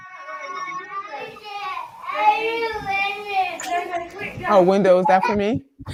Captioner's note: kid cries